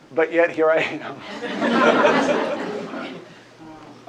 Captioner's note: laughter